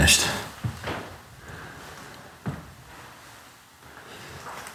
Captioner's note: footsteps pounding